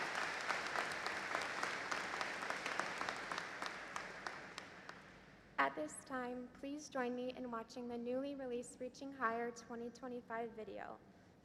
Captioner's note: applause